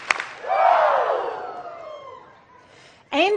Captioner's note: hands clapping